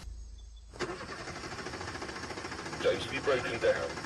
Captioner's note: engine fails to start